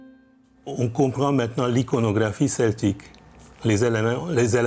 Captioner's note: French spoken audio